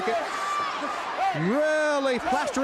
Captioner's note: crowd cheering